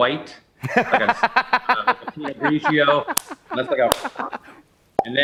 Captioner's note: laughs